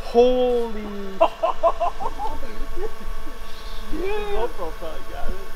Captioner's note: laughs